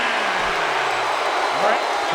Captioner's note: crowd booing